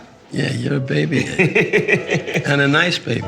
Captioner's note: laughing